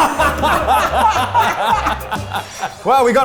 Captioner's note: all laugh